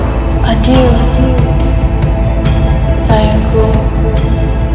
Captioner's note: speaking in foreign language